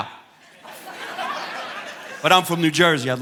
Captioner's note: audience laughing